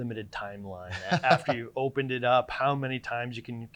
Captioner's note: laughing